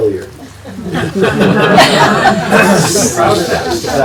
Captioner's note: group laughing